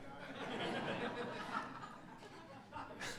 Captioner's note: laughter